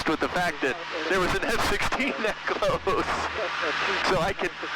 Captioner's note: laughing